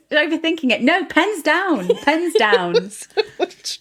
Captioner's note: laughter